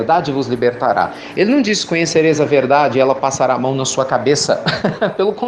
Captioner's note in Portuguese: Risos